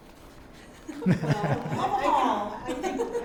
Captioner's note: panel laugh